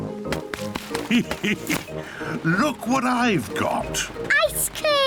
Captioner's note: laughs